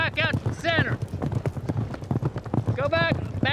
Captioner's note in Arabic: ضربات حوافر